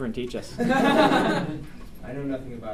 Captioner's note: students laugh